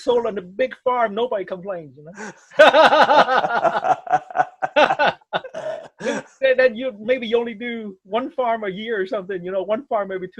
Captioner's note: laughs